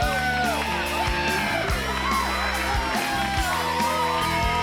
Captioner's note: audience cheers